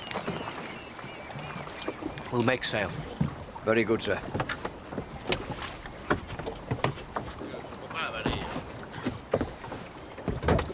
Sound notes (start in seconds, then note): none